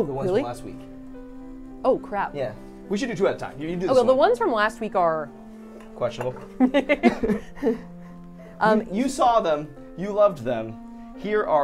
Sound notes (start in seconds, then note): 6.5 laughs